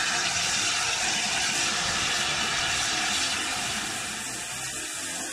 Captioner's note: train releases steam